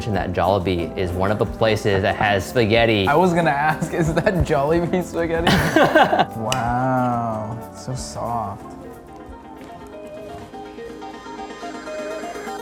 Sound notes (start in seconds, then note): 5.4 laughing; 9.3 bright music